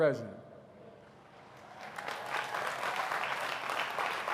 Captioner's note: applause